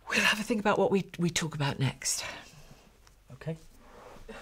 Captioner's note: sighs